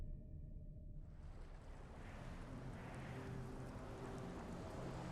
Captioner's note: waves lapping